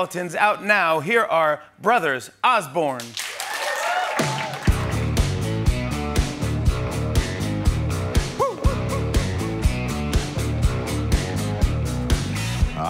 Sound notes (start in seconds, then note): 3.0 clapping